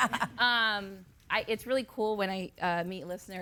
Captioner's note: laughing